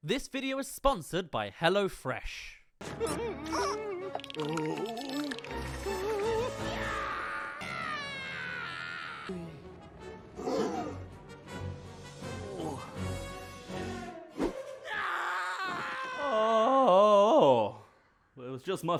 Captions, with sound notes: This video is sponsored by HelloFresh! *Screams* *Screams trails off* Ohh..